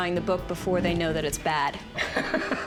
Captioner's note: laughs